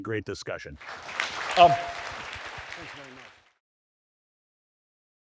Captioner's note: audience applauding